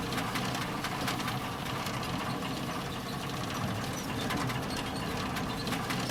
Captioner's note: engine clunking